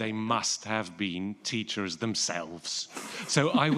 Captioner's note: chuckling